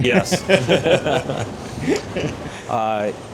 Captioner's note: laughing